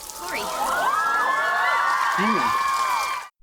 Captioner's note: audience screaming in joy